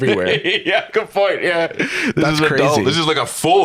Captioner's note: laughing